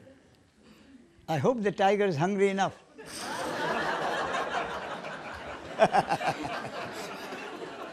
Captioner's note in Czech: smích